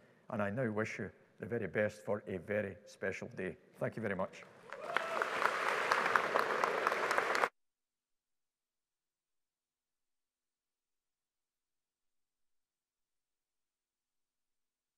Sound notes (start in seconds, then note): 4.6 audience applauding; 4.7 audience cheering